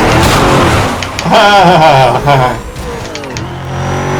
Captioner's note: evil laugh